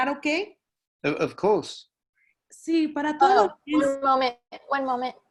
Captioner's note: in Spanish